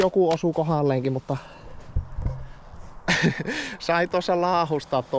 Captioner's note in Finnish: naurua